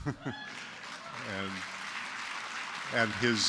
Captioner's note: applause